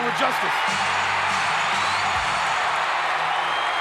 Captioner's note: crowd cheering